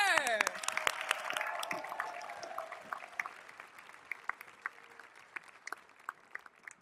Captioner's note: audience cheering; all applauding